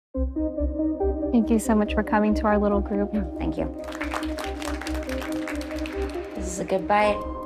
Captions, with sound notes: Thank you so much for coming to our little group Thank you [crowd clapping] This is a good bite.